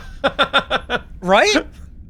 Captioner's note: laughing